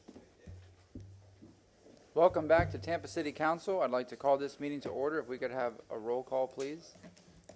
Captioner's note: sounding gavel